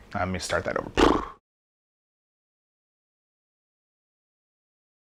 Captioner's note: blows raspberry